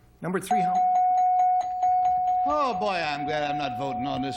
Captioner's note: dings